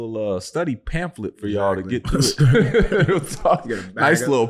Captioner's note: laughing